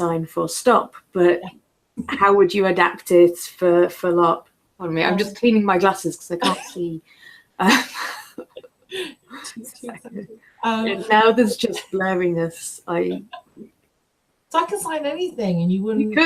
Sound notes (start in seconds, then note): 7.6 laughter